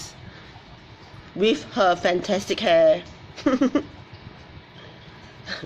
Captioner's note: laughs